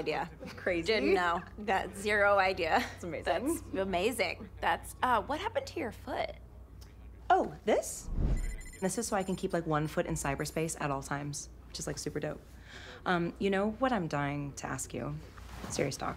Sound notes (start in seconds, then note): 8.1 boot beeps